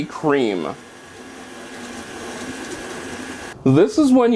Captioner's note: mixing noise